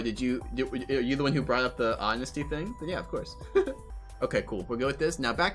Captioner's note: friendly laugh